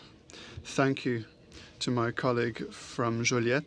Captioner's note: speaking french